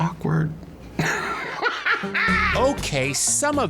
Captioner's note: laughing